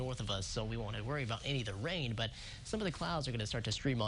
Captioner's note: winds